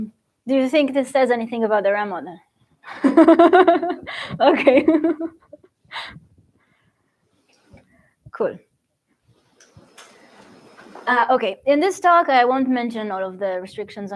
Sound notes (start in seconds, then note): 3.6 laughs; 5.4 laughs